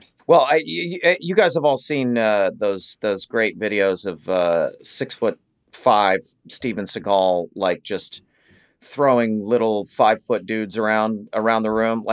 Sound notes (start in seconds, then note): none